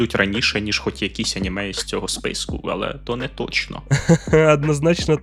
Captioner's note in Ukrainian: сміх